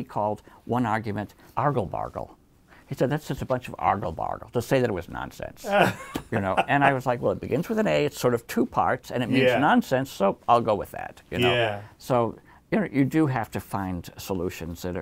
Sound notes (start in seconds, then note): 5.6 laughs